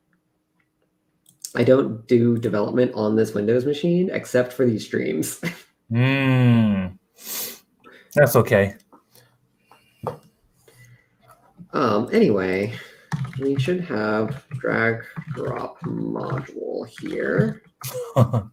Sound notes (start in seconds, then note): 5.3 laughs; 17.8 laughs